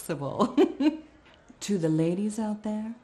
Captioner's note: chuckling